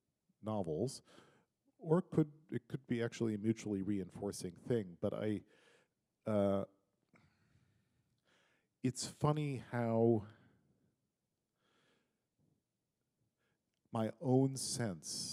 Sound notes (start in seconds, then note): none